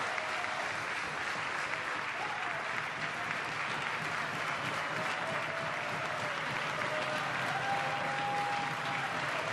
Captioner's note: applause